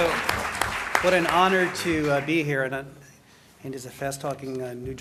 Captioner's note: applause